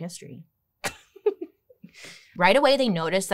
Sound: chuckles

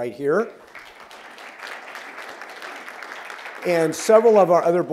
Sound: applause

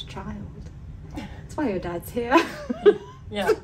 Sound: laughs

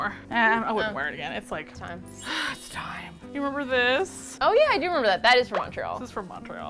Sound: stage whisper

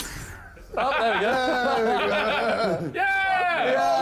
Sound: men laugh

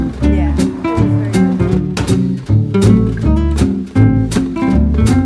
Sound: background chatter; upbeat jazz music

